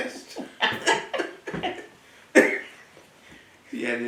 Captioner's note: laughter